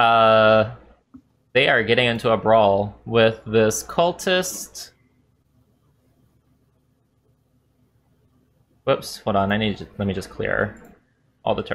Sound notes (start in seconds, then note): none